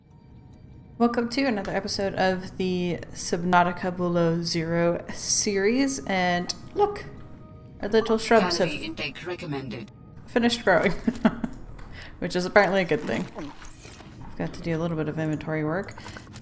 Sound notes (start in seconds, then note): 10.7 laughs